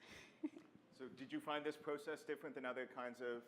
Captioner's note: voiceover